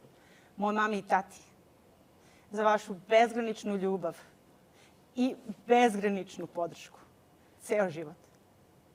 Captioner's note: speaks Serbian